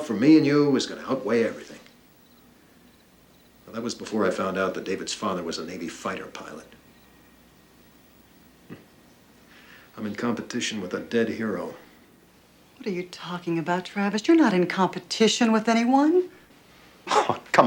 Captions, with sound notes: Well, that was before I found out that David's father was a Navy fighter pilot. [scoffs] I'm in competition with a dead hero. What are you talking about, Travis? You're not in competition with anyone. Ah, come on, Annie, look at me.